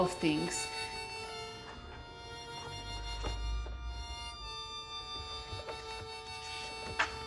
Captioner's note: mysterious music; pages turning